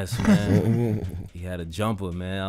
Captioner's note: hosts laughing